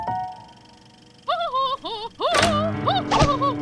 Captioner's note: laughing